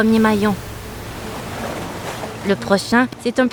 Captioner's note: water splashing